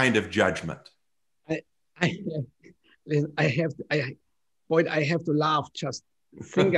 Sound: laughter

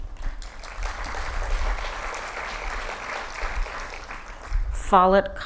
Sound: applause

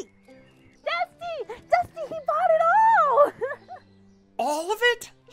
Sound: giggles

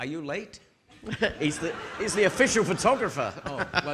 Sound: audience laughing

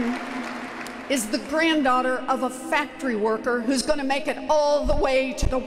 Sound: applause

